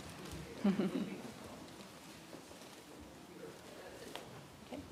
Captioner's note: chuckles